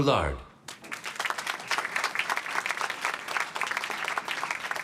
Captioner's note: applause